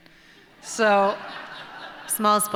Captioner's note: laughter